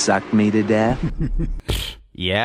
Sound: chuckles

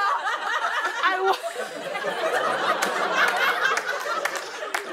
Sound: laughter continues

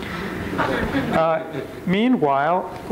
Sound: crowd chuckles

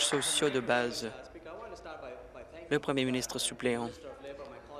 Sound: applause

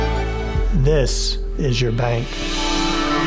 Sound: voiceover

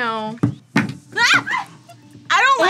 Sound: screams

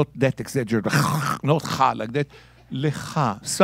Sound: speaking in Hebrew

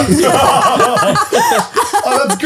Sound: all laughing

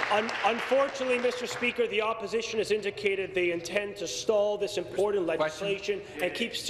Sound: applause

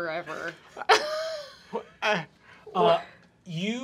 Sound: laughs

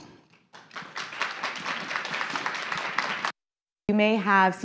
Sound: audience applauding

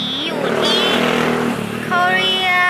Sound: skrrrrrrrt!

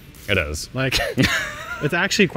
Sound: both laughing

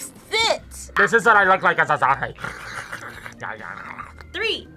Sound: gurgles

